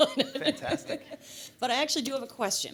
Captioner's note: laughter